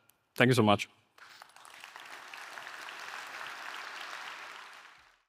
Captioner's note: audience applauding